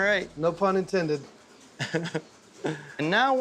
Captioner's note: chuckling